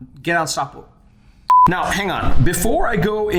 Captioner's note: beeping